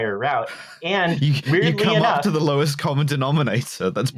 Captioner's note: laughs